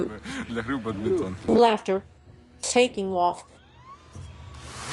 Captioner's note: laughter